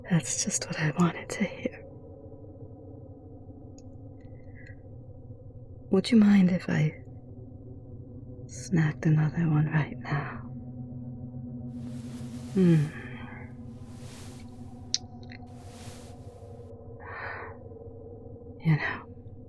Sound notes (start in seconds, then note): 12.4 kiss